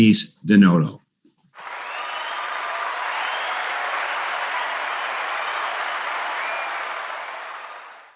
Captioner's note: applause sound effect